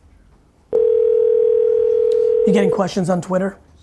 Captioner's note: phone rings